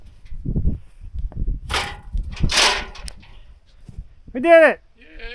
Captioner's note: ladder clanging